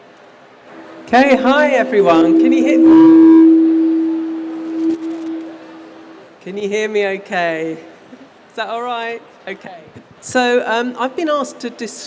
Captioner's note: feedback